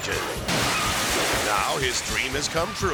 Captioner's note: engine explodes